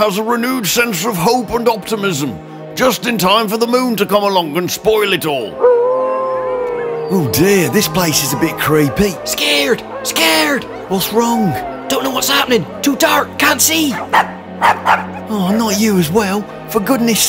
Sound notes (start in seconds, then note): 9.6 growl; 13.9 wolf howls, fool’s dog starts barking